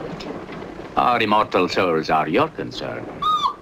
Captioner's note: whimpering